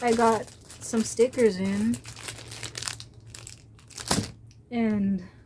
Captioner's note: plastic crinkling